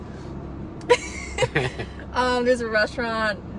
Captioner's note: laughing